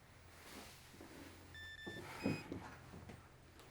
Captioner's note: beeping